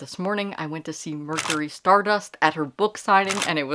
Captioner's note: camera Shutter